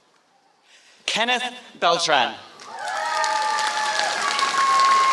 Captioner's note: applause